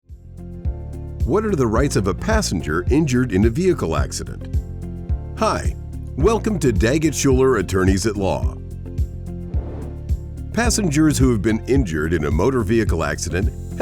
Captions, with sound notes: (bright music) - What are the rights of a passenger injured in a vehicle accident? Hi, welcome to Daggett Shuler Attorneys at Law. (bright music) (graphic whooshing) Passengers who have been injured in a motor vehicle accident